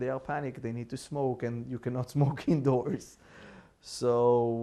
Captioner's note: laughing